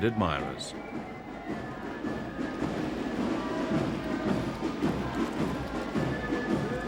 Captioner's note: crowd softly cheering